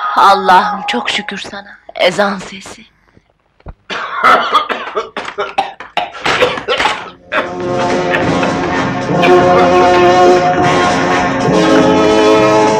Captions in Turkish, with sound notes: Allah'ım çok şükür sana, ezan sesi! [Öksürükler]